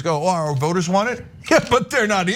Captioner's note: laugh